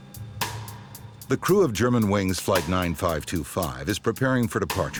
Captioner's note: voiceover